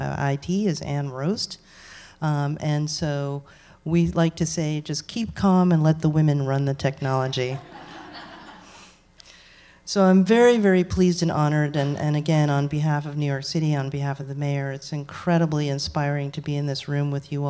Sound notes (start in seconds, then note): 7.5 laughter